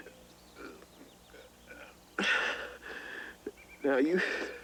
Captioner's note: Ben grunting